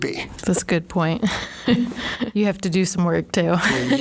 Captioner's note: laughing